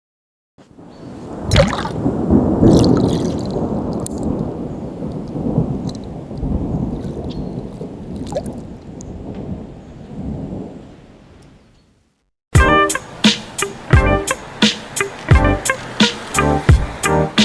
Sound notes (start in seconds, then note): 1.4 water drop; 12.6 hip hop music